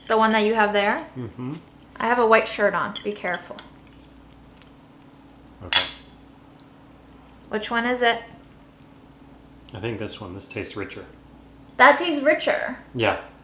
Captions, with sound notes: - The one that you have there? I have a white shirt on to be careful. - Okay. (plates clattering) - Which one is it? - I think this one. This tastes richer. - That is richer?